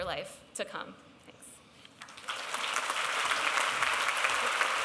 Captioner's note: applause